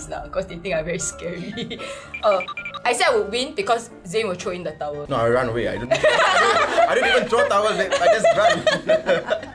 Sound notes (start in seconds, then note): 6.1 laughs